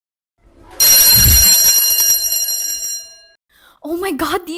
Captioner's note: school bell rings